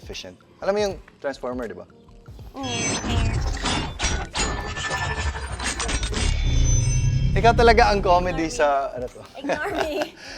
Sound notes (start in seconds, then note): 2.6 Transformers sound